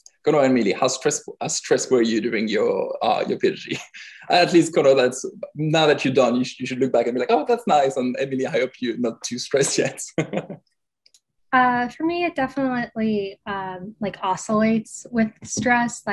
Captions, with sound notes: Go on Emily how stressful are you doing PhD (chuckles) I at least could know, now that you're don't, you should look back and be like, oh, that's nice and Emily, I hope you're not too stressed yet (laughing). - For me, it definitely like oscillates with stress.